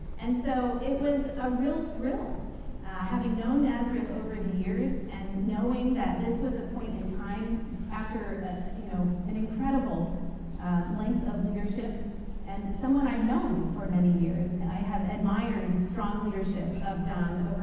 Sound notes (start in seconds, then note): none